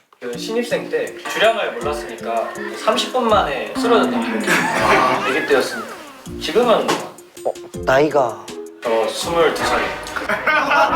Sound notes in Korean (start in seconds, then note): 5.2 응애